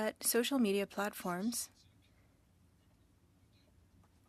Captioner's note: speaking French